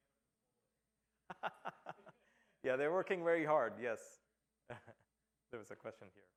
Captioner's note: laughter